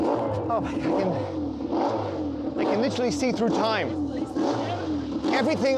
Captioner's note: engine revving